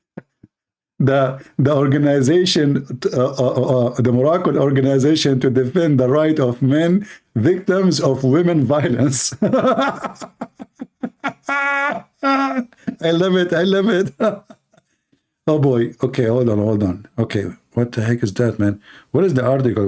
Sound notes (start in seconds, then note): 9.0 Ketawa